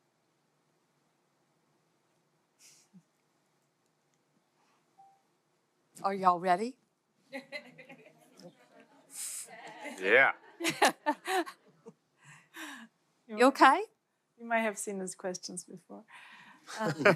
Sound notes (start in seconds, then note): 10.4 audience laughter; 16.7 laughs